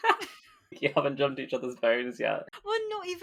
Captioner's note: laughs